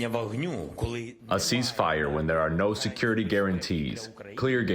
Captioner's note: through translator